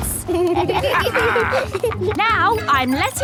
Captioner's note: kids and captain dog laughing